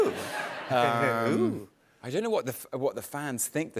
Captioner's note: chuckles